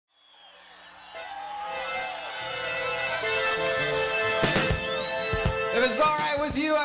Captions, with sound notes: (audience applauding) (lively music) - If it's all right with you,